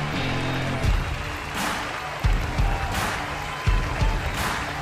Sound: exciting music; audience cheering

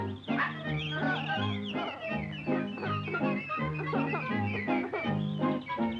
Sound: laughs

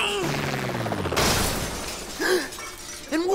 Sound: yelps; crash

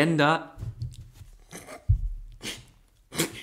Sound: snorts

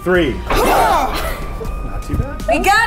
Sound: grunting

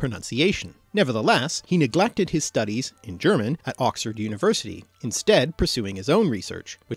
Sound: in German

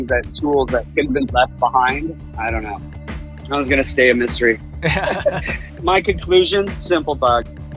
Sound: laughs

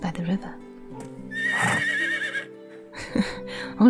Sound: horse: Impatient whinny; chuckle

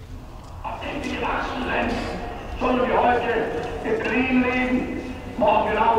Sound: speaking in a foreign language

